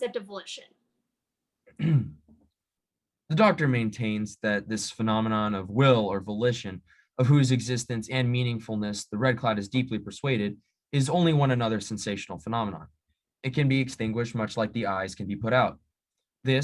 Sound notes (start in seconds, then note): 1.7 medium-rare throat clear